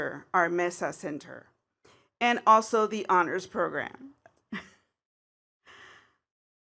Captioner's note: laughs